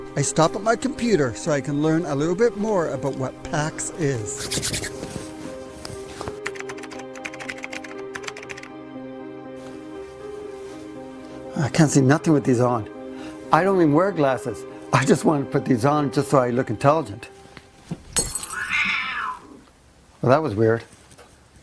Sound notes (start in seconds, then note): 6.4 teclas de computadora haciendo clic; 18.1 vidrio roto; 18.4 gato gruñendo